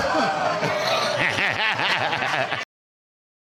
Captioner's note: all laughing